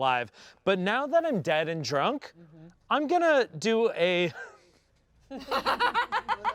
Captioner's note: laughs